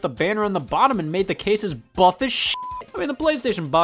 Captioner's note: beep